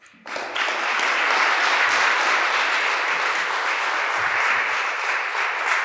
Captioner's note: applause